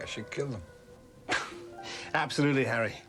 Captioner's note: John chuckles